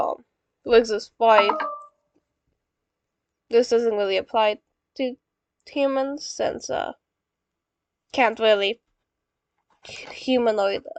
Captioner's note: phone low battery alert sound